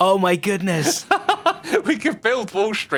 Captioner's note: laughs